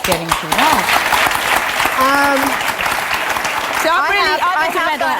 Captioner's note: audience applause